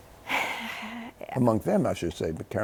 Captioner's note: sighs